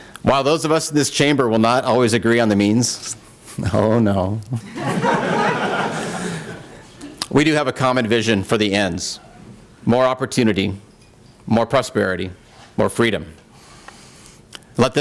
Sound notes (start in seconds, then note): 4.6 laughter